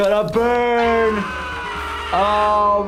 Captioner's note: Lumpy screaming